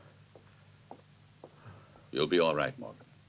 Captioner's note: none